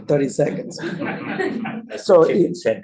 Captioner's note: laughter